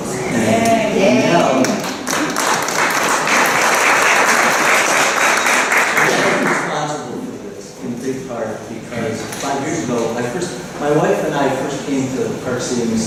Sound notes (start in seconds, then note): 1.6 applause